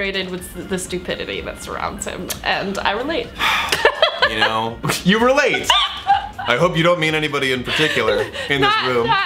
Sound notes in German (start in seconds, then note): 3.4 seufzt; 3.6 kichert